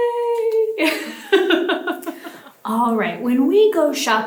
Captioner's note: laughs